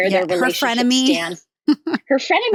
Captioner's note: laughs